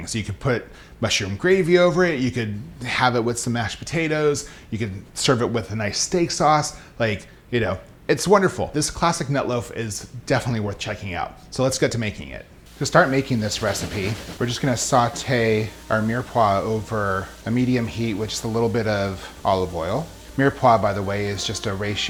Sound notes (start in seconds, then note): 13.0 sizzling